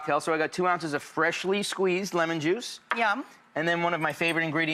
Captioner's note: none